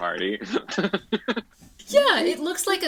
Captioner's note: giggles